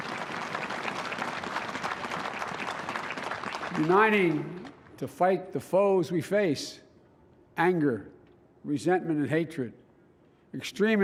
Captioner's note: applause